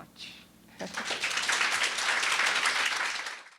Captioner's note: applause